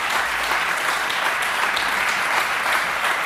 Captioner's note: applause